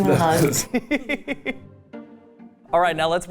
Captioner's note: laughing